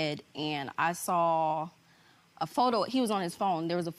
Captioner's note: none